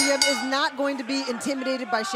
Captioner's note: bell ringing